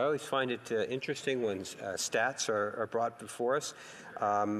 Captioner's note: speaking in French